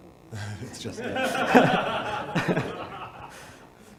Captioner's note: audience laughs